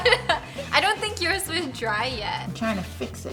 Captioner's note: laughter